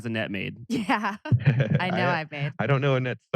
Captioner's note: laughs